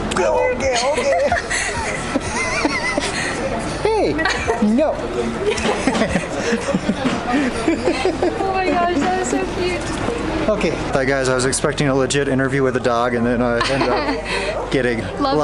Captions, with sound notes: Okay, okay. [Laughter] Hey! No! [Laughter] Oh my gosh, that was so cute! Okay guys, I was expecting a legit interview with the dog and then, I ended up getting